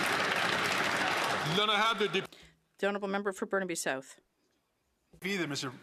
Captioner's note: some Applause